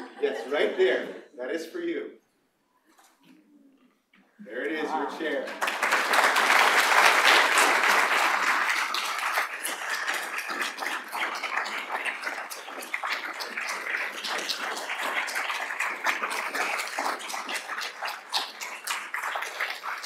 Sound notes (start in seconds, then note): 5.2 applause